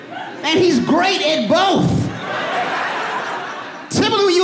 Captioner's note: audience laughing